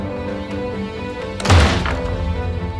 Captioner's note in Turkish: Kapı çarptı